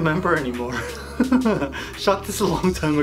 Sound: laughs

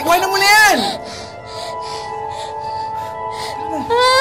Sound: Ella crying; Ella cries

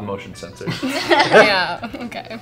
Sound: laughter

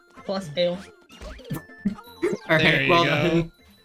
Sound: laughs

